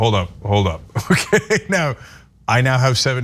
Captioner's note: laugh